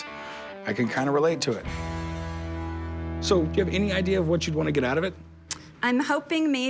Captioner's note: none